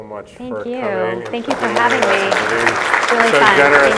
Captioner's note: audience applauding